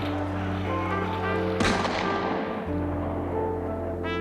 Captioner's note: gun fires